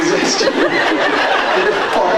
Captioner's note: laughs